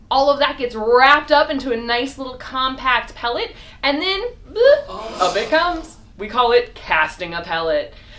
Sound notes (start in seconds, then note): 4.6 crowd recoils